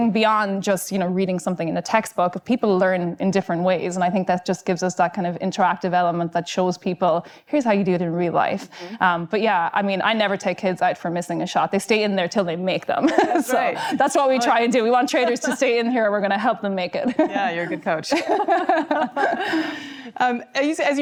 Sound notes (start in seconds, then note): 13.1 laughing; 18.1 both laughing